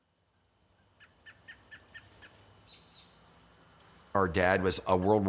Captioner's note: birds chirping